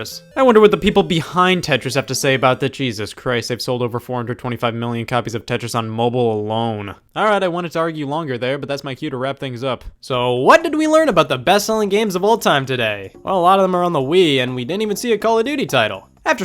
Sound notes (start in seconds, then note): none